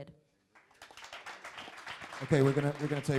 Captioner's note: crowd applauding